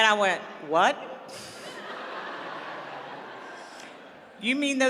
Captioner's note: laughter